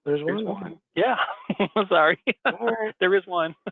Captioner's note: laughs